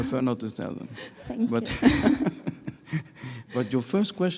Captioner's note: chuckles